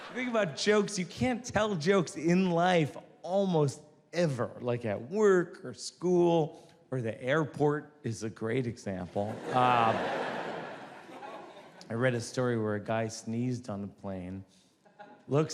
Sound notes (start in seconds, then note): 0.0 audience laughs; 9.2 audience laughs